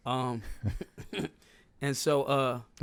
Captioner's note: laughing